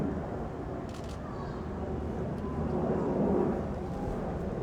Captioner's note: camera clicks